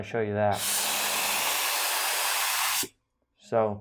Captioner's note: loud spraying